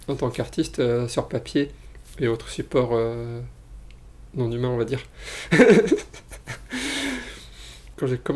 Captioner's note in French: rires